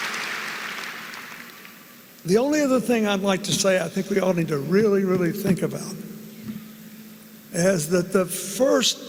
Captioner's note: applause